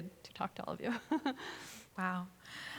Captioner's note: chuckles